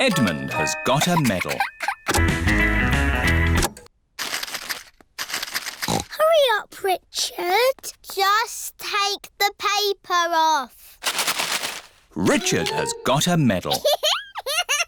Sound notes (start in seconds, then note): 3.7 music stops; 5.8 snorts